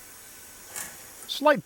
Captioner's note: scrape